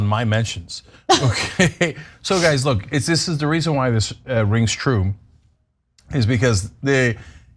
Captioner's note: laugh